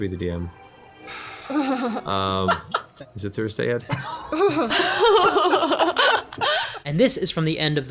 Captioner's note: nervous laughter